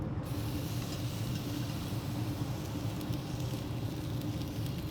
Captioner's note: meat crackling